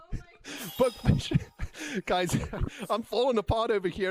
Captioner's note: laughing